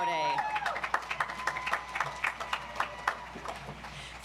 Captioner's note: audience applauds